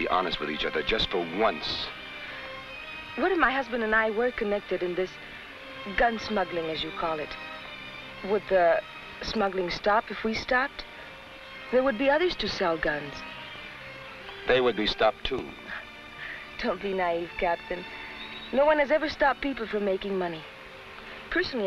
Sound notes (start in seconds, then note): 16.0 laughs